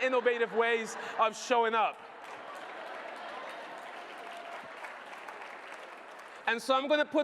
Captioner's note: laughter